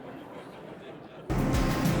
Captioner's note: laughter